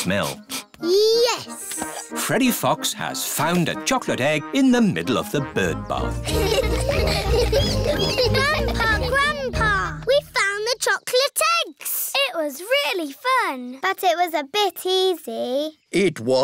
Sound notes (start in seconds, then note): 0.0 sniffs; 6.0 all laughing